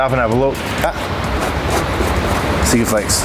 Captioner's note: scraping